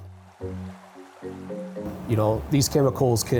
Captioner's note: water splashing